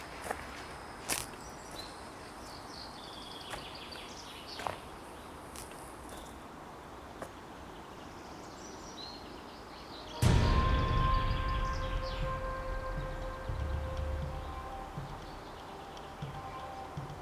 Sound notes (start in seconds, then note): 6.0 bird chirps; 10.2 dramatic music